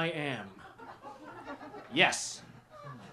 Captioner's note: laughter